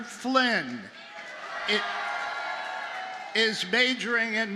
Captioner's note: audience cheers